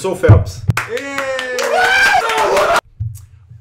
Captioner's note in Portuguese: Gritos e Aplausos